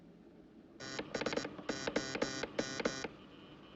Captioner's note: Zumbido, clicando